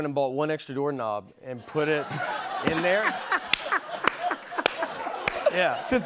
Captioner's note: laughter